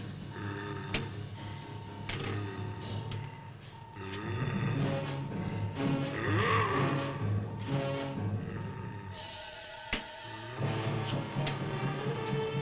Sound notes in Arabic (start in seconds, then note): 5.2 موسيقى مثيرة; 5.9 بوبوكا يزأر